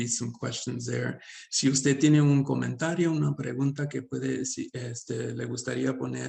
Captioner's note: speaking Spanish